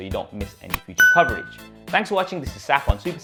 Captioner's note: bell dinging